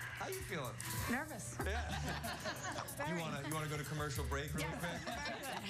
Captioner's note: laughter